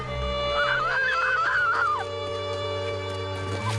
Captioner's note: screaming